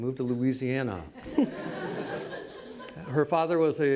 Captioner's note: laughs